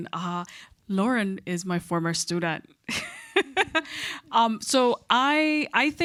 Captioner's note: chuckles